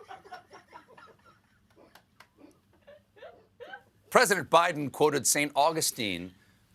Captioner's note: laughter